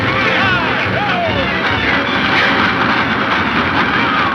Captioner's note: dramatic music; men yelling